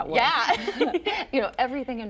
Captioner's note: laughing